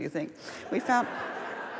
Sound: laughs

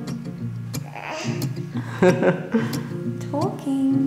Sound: cheerful music; laughter

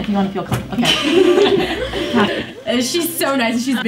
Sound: students laughing

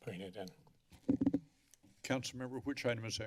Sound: mic noise

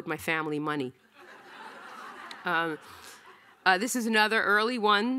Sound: audience laughing

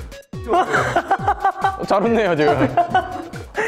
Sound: He laughs because of DAEWOONER

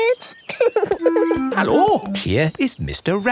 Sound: laughing

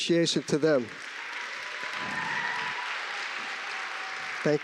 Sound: applause, cheering

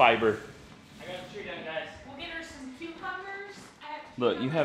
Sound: muffled chatter

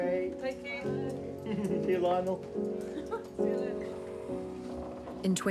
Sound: chuckles; laughs

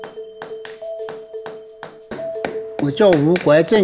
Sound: sound of hammer

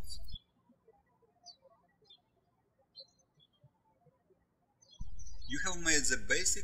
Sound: birds chirping

